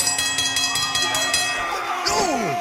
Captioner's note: bell ringing